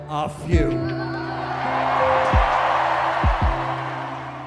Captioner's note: crowd cheers